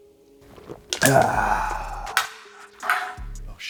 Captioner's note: growls